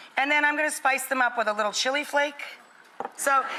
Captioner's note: none